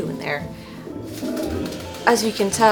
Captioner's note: toilet flushing